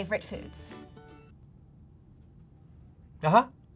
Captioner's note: music stops